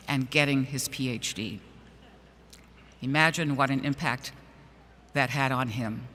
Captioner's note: none